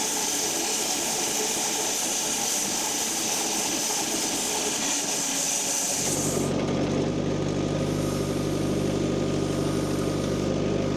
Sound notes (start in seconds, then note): 0.0 log saw whirring continues; 6.5 machine rumbling